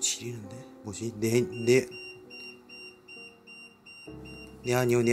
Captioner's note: still beeping